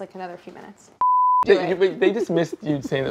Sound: beep

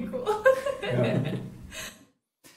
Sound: giggles

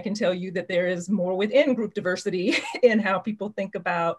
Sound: chuckles

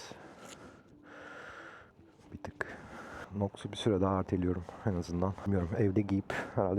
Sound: derin nefes alır

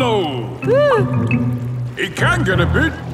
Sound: whimpers

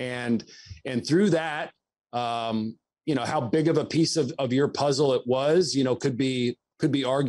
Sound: none

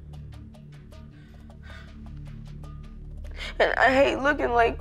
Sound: sighs

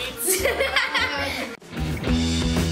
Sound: laughing; upbeat rock music

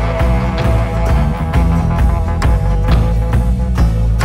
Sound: thumping

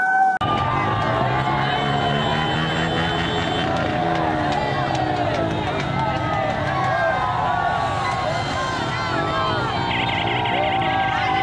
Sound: cheering and car honks

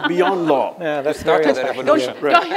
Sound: laughter

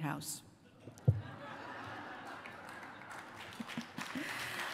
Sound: laughter

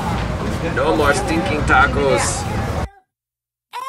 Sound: voiceover

